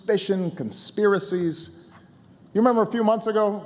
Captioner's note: none